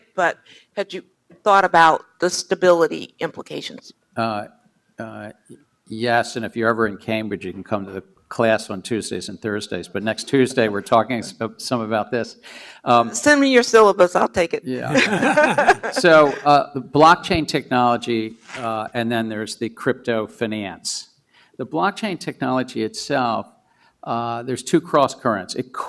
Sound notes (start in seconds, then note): 14.7 laughs